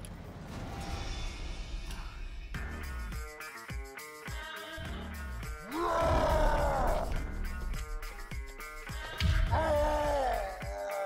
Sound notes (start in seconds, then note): 2.5 rock music playing; 5.6 growls